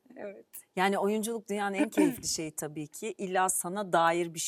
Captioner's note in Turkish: boğazını temizler